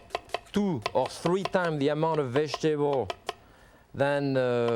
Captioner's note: knife chopping